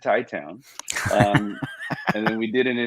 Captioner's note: both laugh